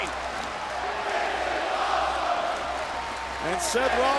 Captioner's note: crowd chants "This is awesome"